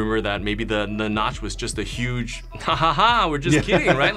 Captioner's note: laughs